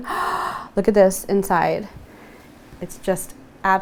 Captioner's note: gasp